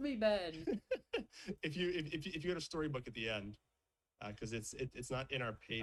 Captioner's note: chuckles